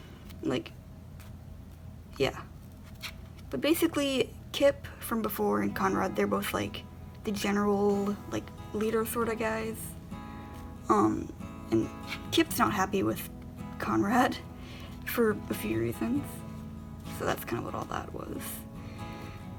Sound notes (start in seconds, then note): 12.0 laughs